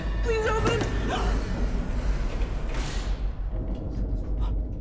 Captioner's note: gasps; elevator door whirring; eerie music